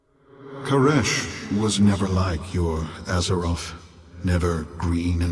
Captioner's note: 回音淡出